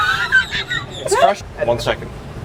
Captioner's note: man laughs